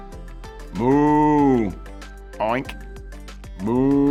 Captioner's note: imitates cow oinking; imitates pig mooing